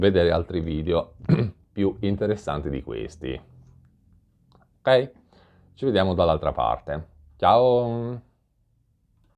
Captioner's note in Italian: schiarire la voce